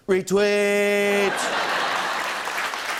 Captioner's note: laughter and applause